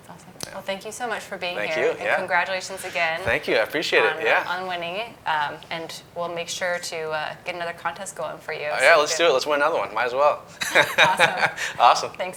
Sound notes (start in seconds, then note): 10.4 laughing